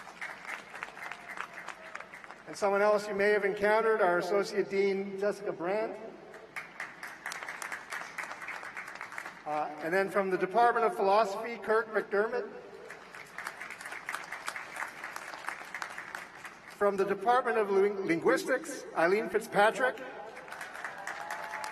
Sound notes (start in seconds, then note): 6.3 applause; 12.8 applause; 18.7 applause